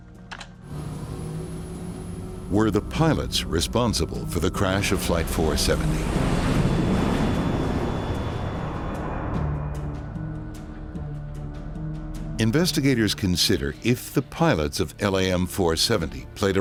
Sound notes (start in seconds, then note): 0.9 humming; 7.0 airplane engine roaring; 10.0 sinister music